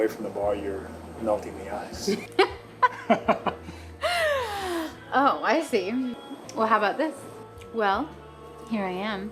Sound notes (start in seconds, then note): 1.9 laughs